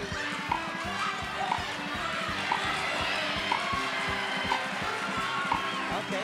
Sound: upbeat game show music; audience cheers

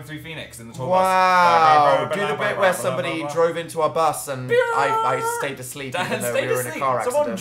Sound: laughs

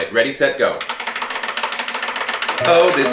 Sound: timer ticking

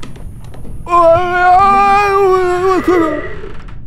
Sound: incomprehensible scared noises

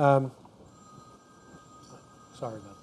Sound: phone ringing

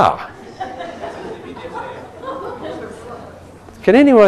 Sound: laughing

